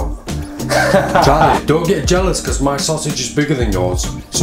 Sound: laughs loudly

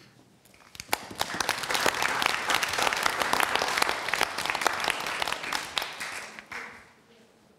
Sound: applause

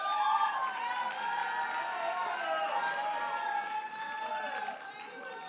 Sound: audience cheers and applauds

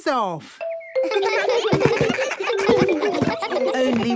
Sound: giggles

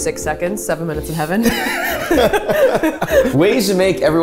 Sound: both laughing

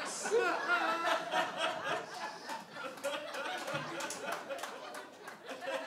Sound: audience laughs and applause

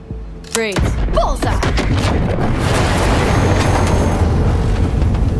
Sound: kaboom

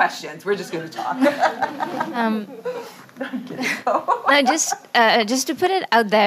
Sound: everybody laughing

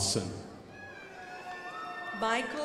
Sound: crowd applauding

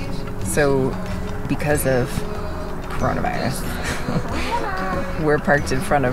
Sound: laughs

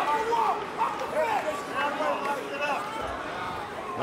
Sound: trainers shouting

